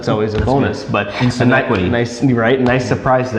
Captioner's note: laughing